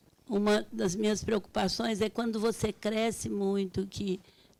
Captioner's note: speaking Portuguese